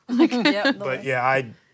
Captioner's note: laughs